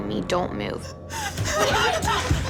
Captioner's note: panicked breathing